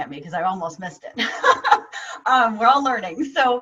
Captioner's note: laughing